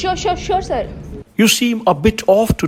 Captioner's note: none